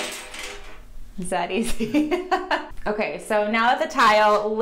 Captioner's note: tile smashing; laughs